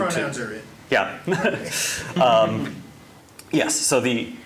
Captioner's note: chuckling